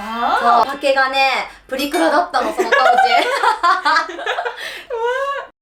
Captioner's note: laughs